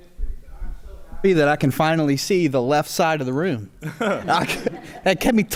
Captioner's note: chuckles